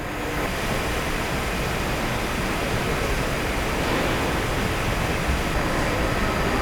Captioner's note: engine revving